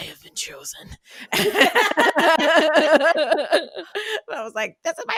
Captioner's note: laughter